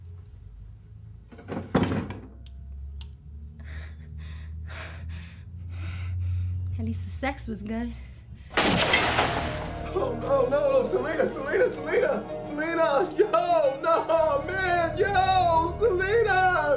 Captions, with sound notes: At least the sex was good. (GUNSHOT) No, no, no, no. Selena, Selena, Selena. No, no, no. Yo, Selena. Get up. No. Oh man, shit.